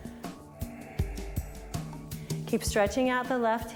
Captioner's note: breathes